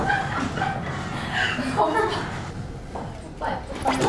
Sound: just laughing. Hahahaha

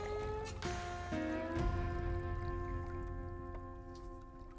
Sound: water splashing

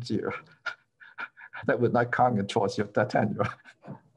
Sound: laughter

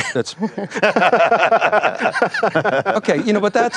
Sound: laughs

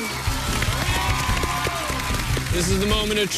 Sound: cheers and applause

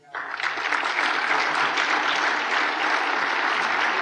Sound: applause

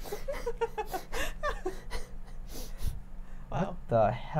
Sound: laughing

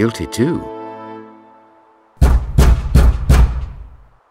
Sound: knock at door

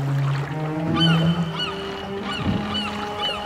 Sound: sad music; seagulls echoing in the distance

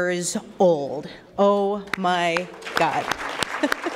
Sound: applause

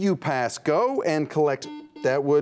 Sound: buzzer beeps

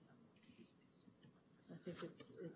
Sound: quietly

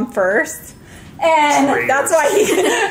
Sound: giggles

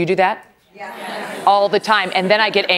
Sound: laughter

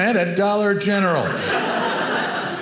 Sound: audience laughing

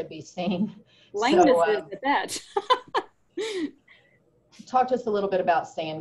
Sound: laughs

